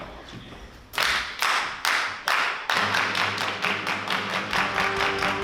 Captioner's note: clapping